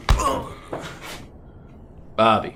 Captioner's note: Bobby groaning